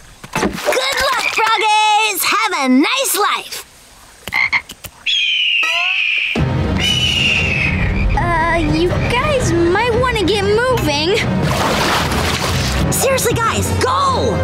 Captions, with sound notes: Good luck, frog-ays! Have a nice life! [croaking] [squawking] Uh, you guys might wanna get moving. Seriously, guys, go!